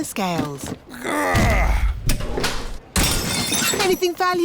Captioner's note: grunts; crashes